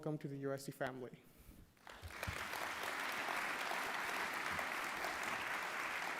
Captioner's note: applause